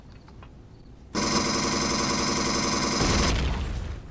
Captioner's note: explosion; pulse rifle